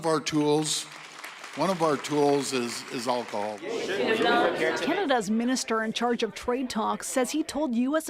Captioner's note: applause